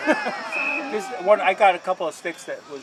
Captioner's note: laughter